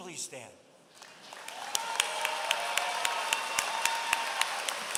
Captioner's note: applause